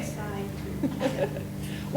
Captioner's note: laughs